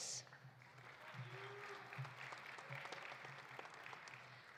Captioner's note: audience applauding